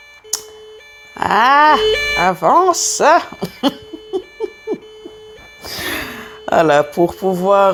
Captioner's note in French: Rires